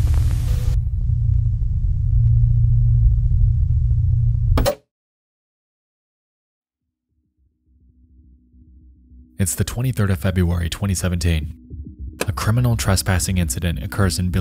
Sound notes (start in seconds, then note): 0.0 static hums; 4.5 TV Pops